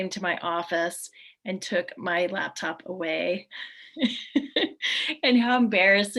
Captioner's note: laughs